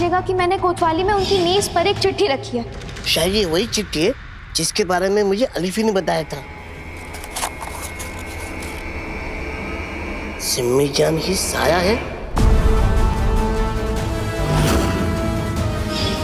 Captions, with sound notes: ' that I left a letter on his desk in his office.' Is this the same letter that Alifi informed me about? [paper rustles] Simijaan is a shadow!